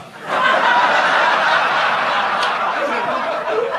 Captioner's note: audience laughs